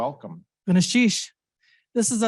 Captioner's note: speaking in foreign language